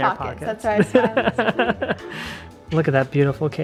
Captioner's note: laughs